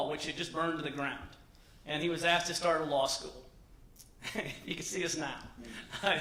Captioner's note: laughter